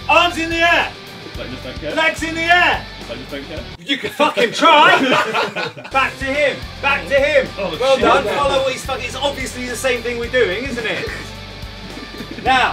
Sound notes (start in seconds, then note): 3.9 group laughing